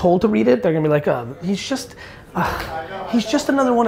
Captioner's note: sighs